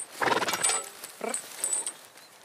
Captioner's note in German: Schnauben